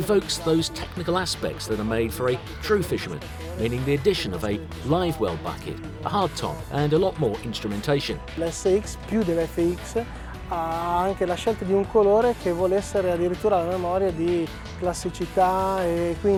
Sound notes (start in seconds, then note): 8.6 speaking Italian